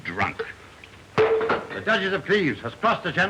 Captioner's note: goblet clangs onto floor